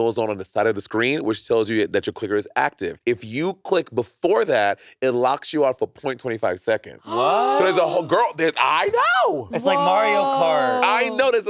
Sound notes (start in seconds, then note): 7.1 gasping